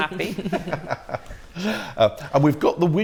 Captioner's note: laughter